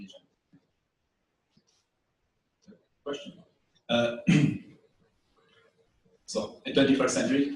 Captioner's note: pause